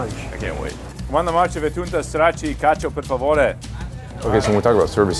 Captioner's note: speaking in Italian language